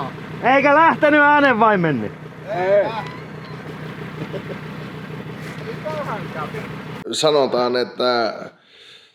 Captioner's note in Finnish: naurua